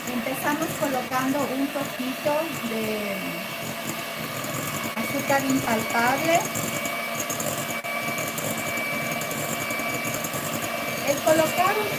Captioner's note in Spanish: ruido de batidora